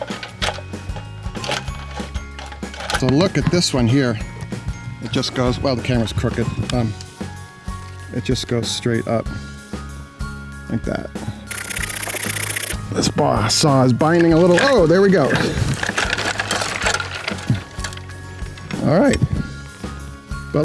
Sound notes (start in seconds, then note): 0.1 cheerful music; 11.5 pruner scraping; 16.0 branches clanking